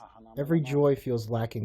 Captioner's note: through translator